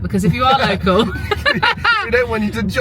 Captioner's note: both laughing